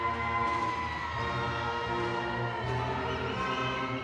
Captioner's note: audience cheering